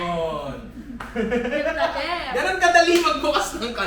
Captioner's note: laughs